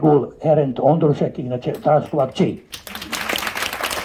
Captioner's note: applause…